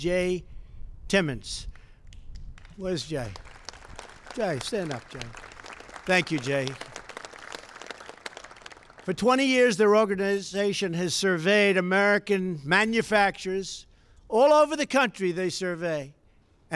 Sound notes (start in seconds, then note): 6.1 applause